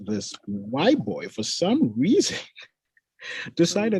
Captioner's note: chuckles